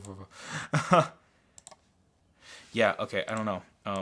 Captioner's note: laughs